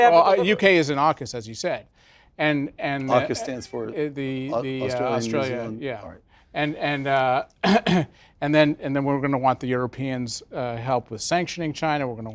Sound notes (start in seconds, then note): 7.6 cough